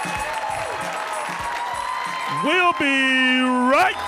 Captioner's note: audience cheering